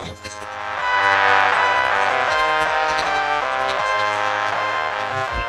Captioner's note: crowd cheers